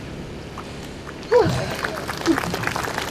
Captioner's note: audience starts clapping; sighs